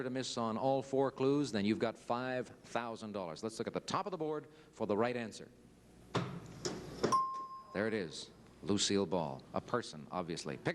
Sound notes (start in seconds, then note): 7.1 bell ding